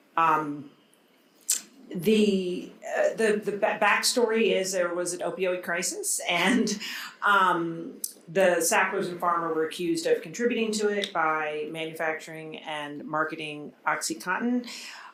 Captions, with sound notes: The backstory is there was an opioid crisis, (chuckles) and the Sacklers and Pharma were accused of contributing to it by manufacturing and marketing Oxycontin.